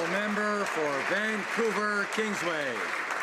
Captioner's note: some Applause